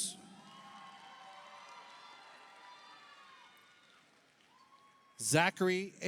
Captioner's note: audience cheers; audience applauds